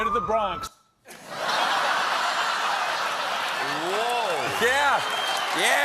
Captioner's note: laughter